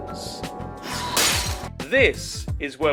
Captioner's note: smash